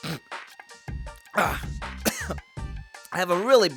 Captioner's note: sniff; cough